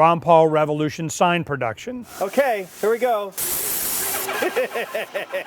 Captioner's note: laughter